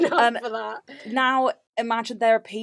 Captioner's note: laughs